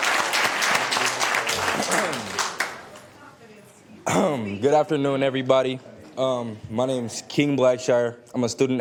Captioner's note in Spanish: Aplausos